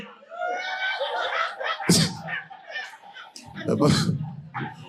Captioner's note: audience laughing